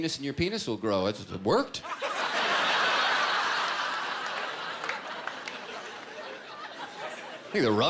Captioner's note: laughter